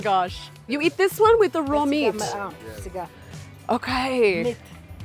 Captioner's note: speaking Ethiopian